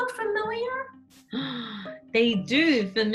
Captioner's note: gasps